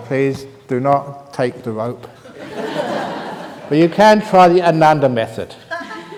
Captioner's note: laughter